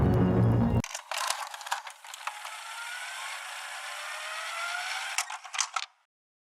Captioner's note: VHS Ejecting noise, followed by other VCR Sounds